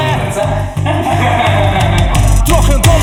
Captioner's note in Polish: śmiech